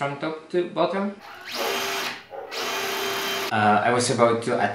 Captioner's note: construction sounds